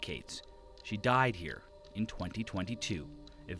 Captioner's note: speaking alternate language